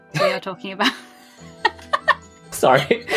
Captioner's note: also laughs; laughs